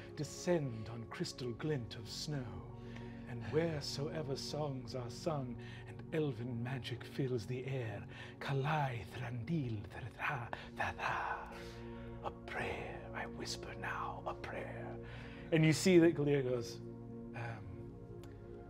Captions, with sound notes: descend on crystal glint of snow, and wheresoever songs are sung, and Elven magic fills the air, (speaking in Elven) a prayer I whisper now, a prayer." And you see that Gilear goes, "Um.